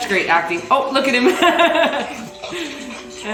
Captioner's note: laughs